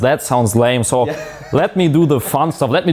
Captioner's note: laughing